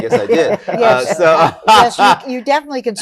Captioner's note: laughter